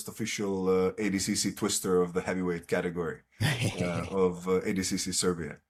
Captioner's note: laughs